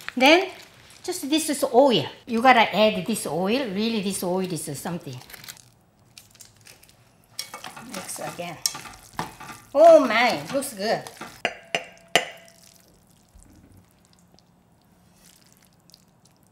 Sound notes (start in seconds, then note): 11.1 metal clanking